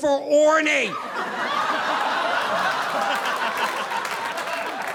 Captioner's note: audience laughing